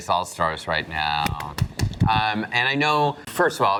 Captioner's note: clapping